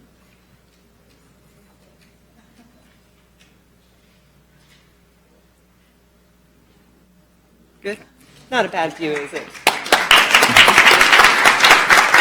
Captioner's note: laughter